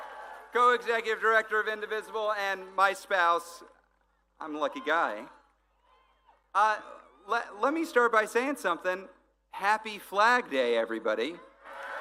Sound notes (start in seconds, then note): 1.8 applause